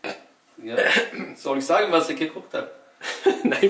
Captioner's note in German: räusper